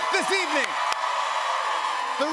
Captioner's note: cheers and applause